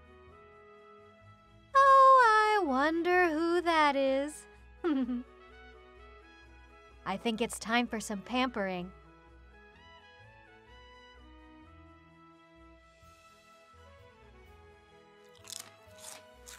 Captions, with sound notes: Oh I wonder who that is *giggles* I think it’s time for some pampering!